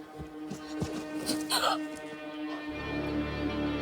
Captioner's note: gasp